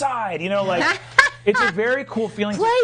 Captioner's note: laughing